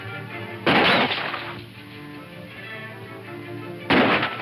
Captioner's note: gunshots